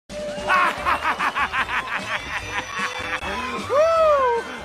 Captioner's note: laughing